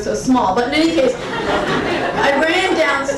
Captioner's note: crowd laughing